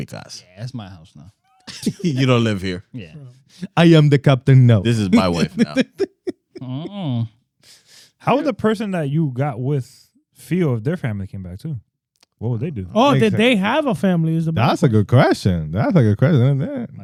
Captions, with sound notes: Yeah, that's my house now. You don't live here. I am the captain, no. This is my wife now. (Laughing) How was the person that you got with Phil if their family came back too? What would they do? Oh, did they have a family? That's a good question. That's a good question, isn't it?